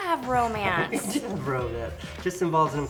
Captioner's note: laughs